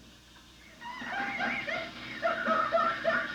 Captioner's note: laughing